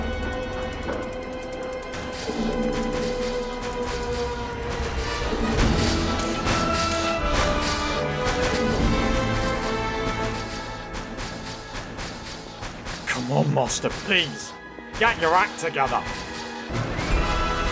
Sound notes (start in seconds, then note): 2.1 distant stamping sounds; 5.6 cybermen stamping and raising their right arms with guns